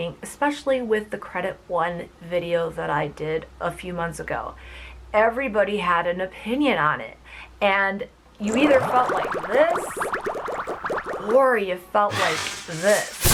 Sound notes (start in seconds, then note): 8.4 bubbles popping